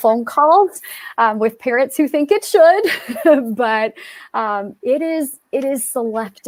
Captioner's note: laughter